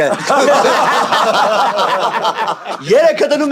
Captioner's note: haha